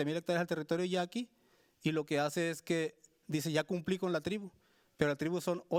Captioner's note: speaking Spanish continues